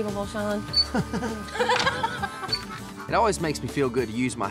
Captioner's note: chuckling